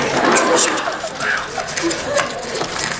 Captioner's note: wriggle